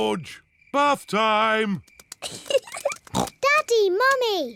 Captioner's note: giggles